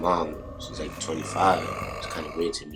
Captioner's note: low growling rumbles; spooky music plays